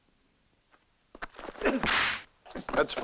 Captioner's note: grunts